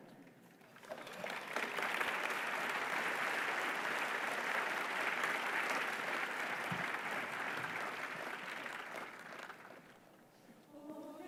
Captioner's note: applause